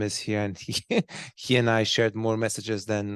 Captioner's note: chuckles